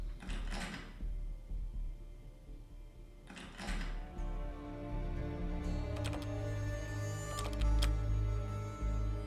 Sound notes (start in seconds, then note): 0.1 lock rattling sound; 5.9 louder lock rattling